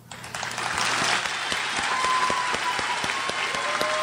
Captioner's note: crowd applauds